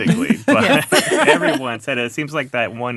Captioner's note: laughing